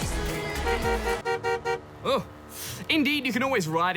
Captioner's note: toots horn